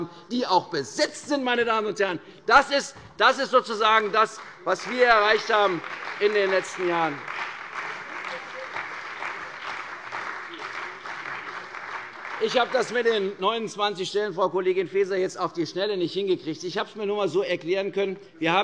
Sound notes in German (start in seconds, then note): 7.0 Lebhafter Beifall bei der CDU und dem BÜNDNIS 90/DIE GRÜNEN